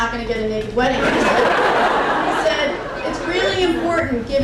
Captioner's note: crowd laughing continues